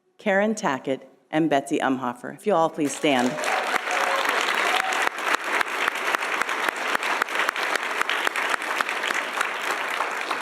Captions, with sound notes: Karen Tackett, and Betsy Emhoffer. If you'll all please stand. (audience applauding and cheering)